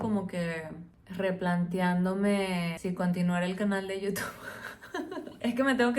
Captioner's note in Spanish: Risas